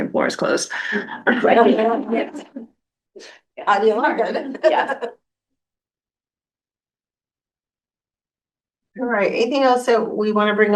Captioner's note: laughter